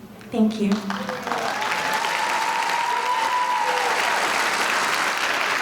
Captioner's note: audience applauding